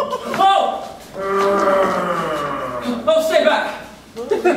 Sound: audience laughing; growling

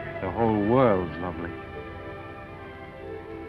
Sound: none

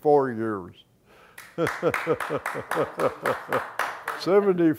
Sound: clapping

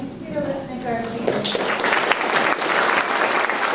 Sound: applause

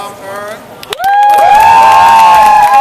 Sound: cheers

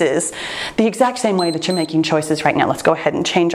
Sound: timer beeps

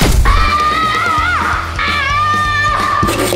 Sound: screaming

